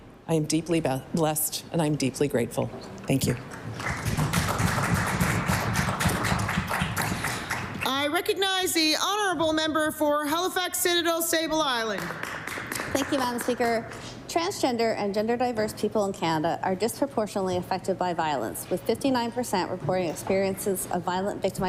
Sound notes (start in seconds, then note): 7.5 applause